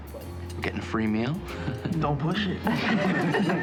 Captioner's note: all laugh